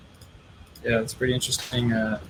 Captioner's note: clicking